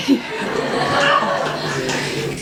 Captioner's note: audience laughs